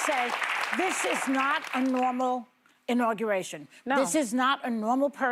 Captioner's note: applause